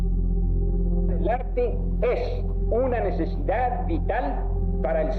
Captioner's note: person speaking Spanish